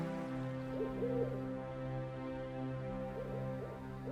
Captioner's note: 猫头鹰的叫声